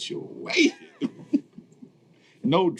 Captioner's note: laughing